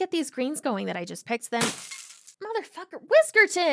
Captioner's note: sound of smash